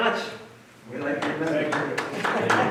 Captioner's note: applause